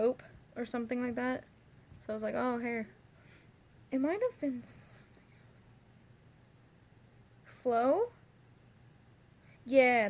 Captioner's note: whisper